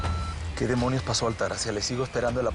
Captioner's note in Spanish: Bip